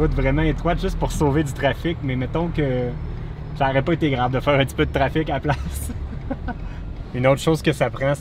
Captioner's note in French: Rire